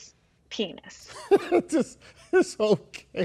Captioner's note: laughs loudly